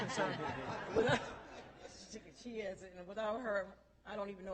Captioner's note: audience laughing